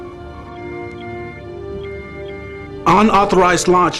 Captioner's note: alarm